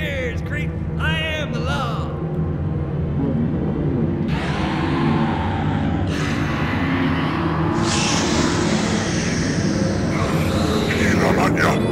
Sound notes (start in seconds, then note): 4.3 Gila Munja Shrieks; 6.3 more shrieking